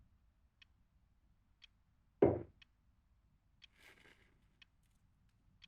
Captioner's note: clock ticking continues